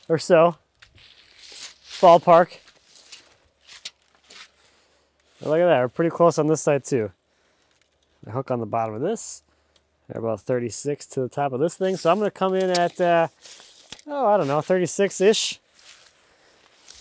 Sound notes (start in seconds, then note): none